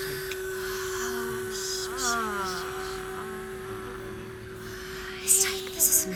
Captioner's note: humming, Breathing And Sighing